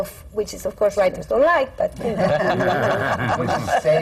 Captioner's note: laughter